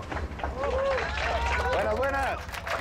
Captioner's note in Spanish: Aplausos